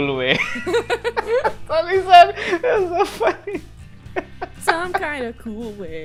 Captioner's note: laughter; laughs